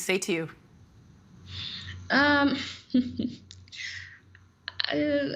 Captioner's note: chuckling